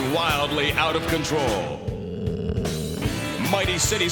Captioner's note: growling